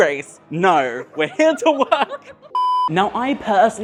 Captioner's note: laughs